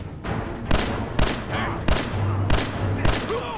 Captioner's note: blam! blam! blam!